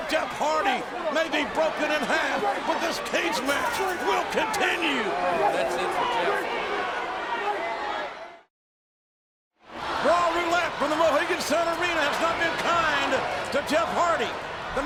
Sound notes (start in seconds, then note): 6.4 audience yelling; 9.7 audience cheering